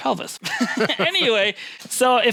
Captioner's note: laughing